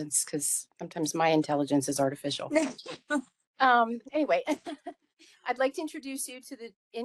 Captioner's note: laughing